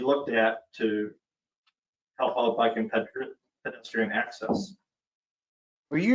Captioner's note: distorted audio